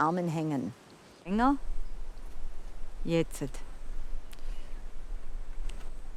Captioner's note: speaks in foreign language